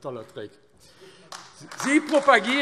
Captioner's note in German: Beifall AfD